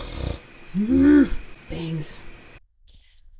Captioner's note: groans; snorts